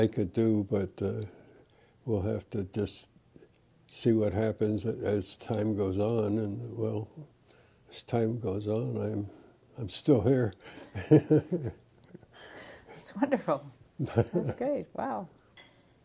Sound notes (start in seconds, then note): 10.7 laughter